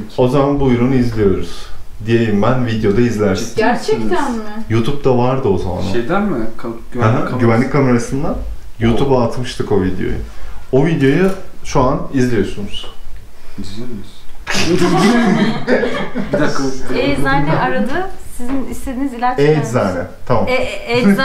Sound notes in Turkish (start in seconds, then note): 14.5 Gülüşmeler